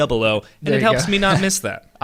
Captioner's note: laughs